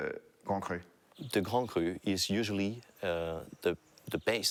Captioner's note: with French accent